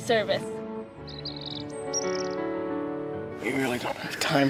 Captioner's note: birds chirping